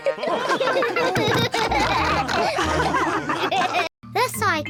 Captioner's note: all laugh